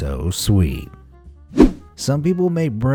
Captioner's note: whoosh